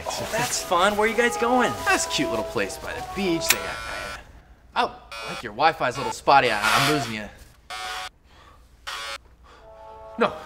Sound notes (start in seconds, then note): 3.5 clippers buzz; 7.8 clippers buzz